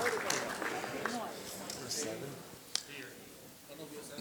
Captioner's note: audience clapping